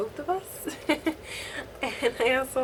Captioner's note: laughs